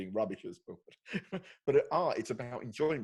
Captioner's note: laughing